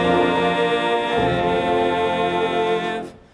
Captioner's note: none